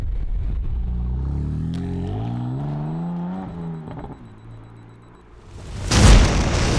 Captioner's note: engine roaring; timer ticking; bomb explodes; dramatic music